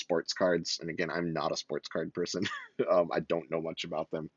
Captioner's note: laughs